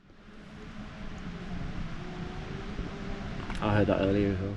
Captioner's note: chainsaw whirring